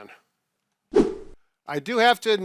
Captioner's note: swipe sound effect